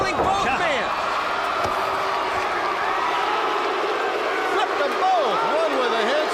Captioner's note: crowd chatter